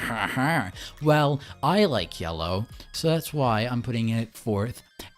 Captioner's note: laughing